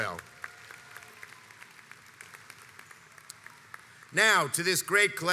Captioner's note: audience applauds